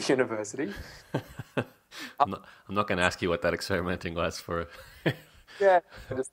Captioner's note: laughs